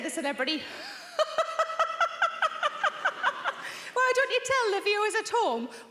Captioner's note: laughs